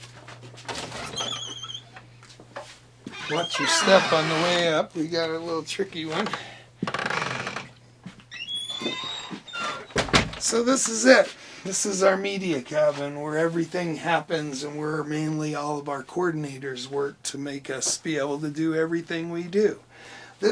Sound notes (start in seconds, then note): 1.2 door creaking; 8.4 door creaking; 9.9 door slamming